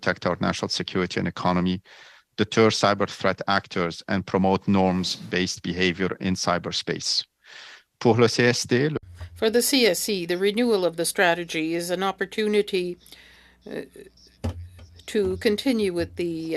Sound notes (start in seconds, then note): 14.3 speaking French